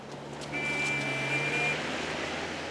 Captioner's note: car horn